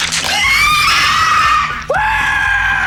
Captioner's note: screeching; screaming